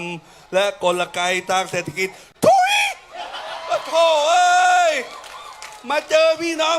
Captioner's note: screams